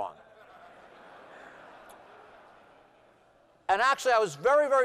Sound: laughter

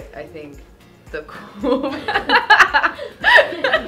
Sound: laughing

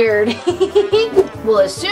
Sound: giggles

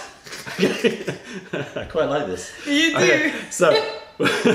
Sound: laughter

